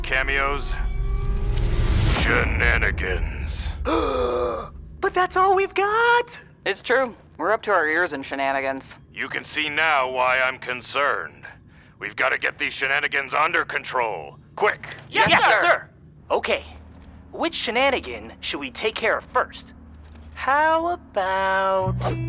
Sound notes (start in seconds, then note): 0.2 suspenseful music; 3.8 Ray gasps